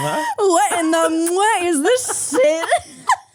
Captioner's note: smooches; all laugh